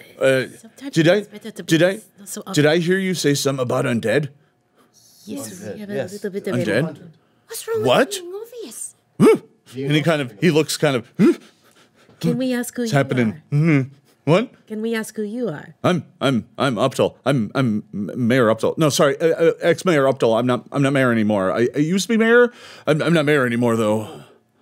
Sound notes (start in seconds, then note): 5.8 murmuring; 8.6 grunts